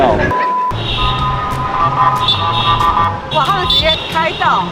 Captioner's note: honking